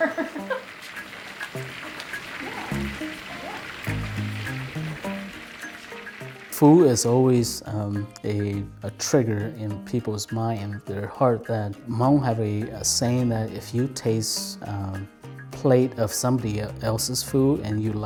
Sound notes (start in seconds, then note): 0.0 laughs; 2.6 oil bubbling